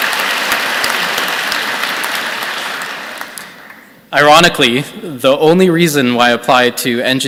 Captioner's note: applause